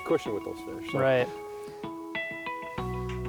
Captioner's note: pat